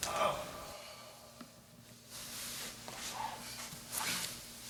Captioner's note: loud moaning